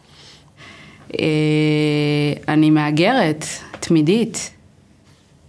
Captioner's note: Hebrew